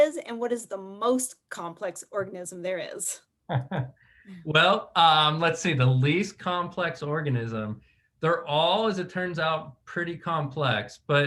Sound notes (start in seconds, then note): 3.5 chuckles